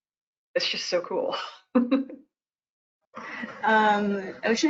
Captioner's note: laughs